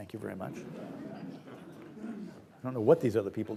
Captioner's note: audience laughs